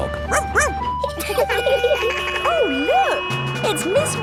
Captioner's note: laughing; barks; sirens sounding